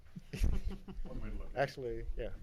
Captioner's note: laughing